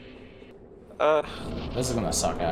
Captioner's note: sighs